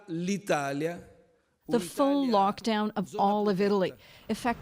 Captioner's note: speaking italian